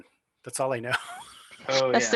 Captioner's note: laughter